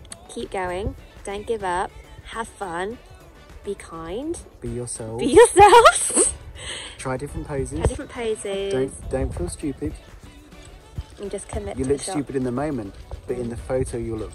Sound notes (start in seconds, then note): 6.9 laughs